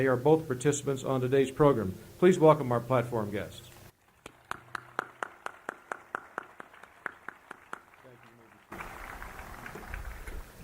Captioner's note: applause